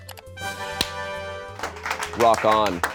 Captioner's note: triumphant music; audience applauding